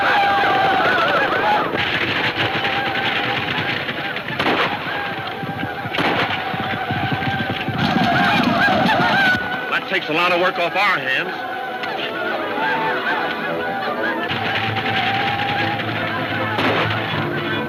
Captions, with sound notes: (gunfire pops) Well that takes a lotta work off our hands. (tense music) (gunfire pops)